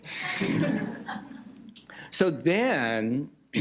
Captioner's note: laughter